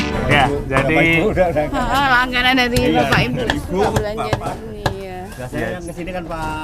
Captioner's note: laughs